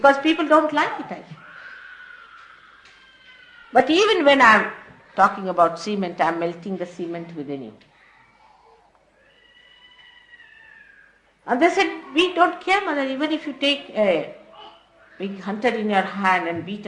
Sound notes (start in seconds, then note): none